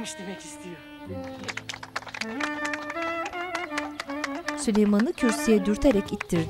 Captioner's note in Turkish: Alkış sesleri